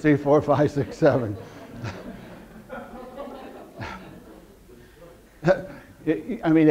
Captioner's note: audience laughter